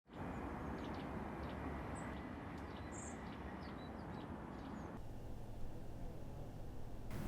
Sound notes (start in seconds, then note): 0.3 birds chirping